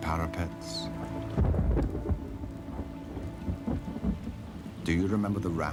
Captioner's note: thunder